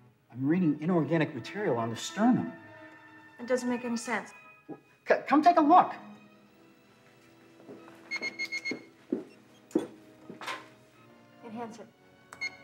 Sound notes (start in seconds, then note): 8.1 computer beeps